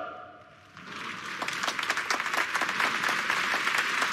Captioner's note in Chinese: 掌声